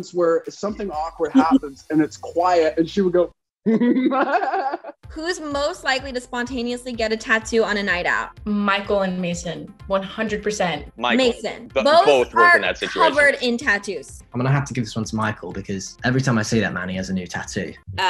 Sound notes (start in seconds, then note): 3.6 giggling